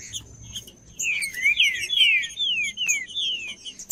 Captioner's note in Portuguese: trinca ferro cantando